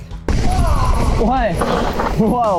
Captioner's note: screams